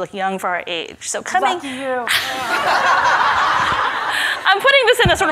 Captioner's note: everybody laughs